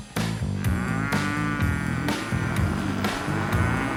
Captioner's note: cow moos